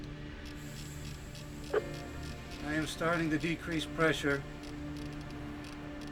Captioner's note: microphone Clicks